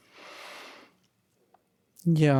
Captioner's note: exhales softly; inhales loudly